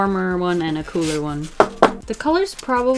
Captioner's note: tap, tap